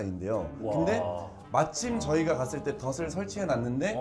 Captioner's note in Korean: 감탄